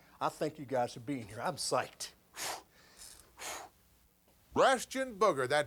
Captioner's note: panting